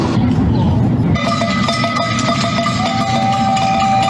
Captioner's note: bells ringing